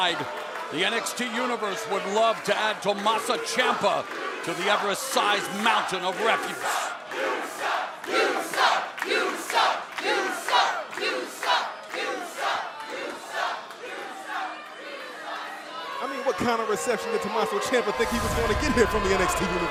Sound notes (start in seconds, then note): 10.2 fans chanting